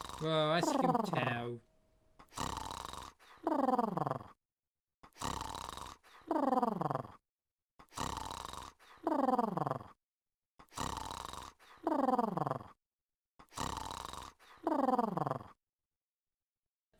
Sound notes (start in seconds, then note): 2.5 mr tickle snoring